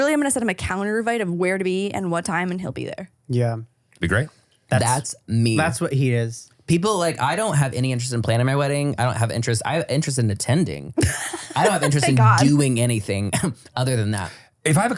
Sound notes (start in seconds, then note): 11.0 laughs